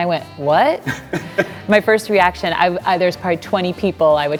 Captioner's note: laughing